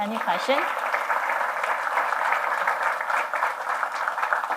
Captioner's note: applause